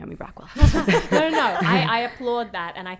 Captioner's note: laughing